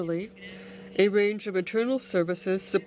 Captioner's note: speaking French